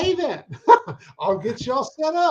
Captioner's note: chuckles